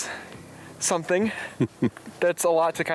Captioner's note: chuckling